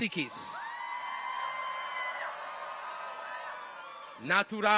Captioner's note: people cheer